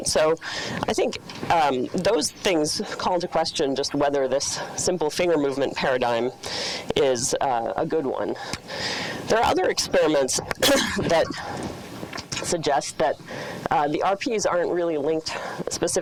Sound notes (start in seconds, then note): 10.5 coughs